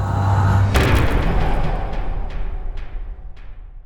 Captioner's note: impact